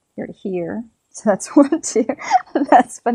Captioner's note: laughs